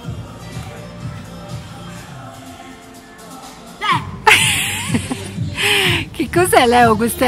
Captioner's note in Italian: risata